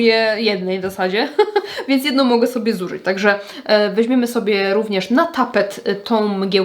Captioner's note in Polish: śmiech